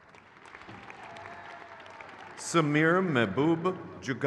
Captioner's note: crowd cheers